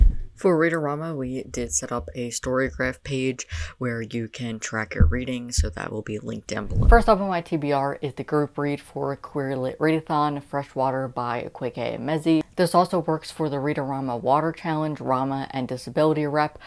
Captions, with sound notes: For Read-O-Rama, we did set up a Story Graph page where you can track your reading so that will be linked down below. [Woosh] First off on my tbr is the group read for Queer Lit Readathon, Freshwater by Akwaeke Emezi. This also works for the Read-O-Rama “Water” challenge, "RAMA", and "Disability Rep".